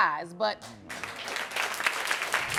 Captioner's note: audience clapping